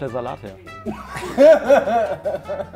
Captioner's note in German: Lachen